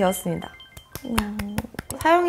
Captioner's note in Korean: 짝짝짝